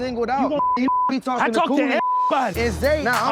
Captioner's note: beep